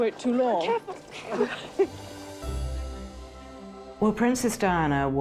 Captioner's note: Diana chuckles